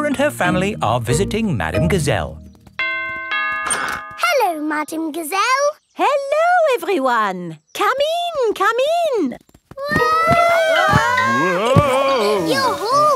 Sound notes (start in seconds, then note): 2.8 doorbell rings; 10.2 all yelling